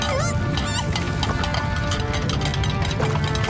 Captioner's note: plates clanking